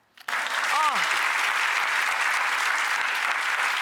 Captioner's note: applause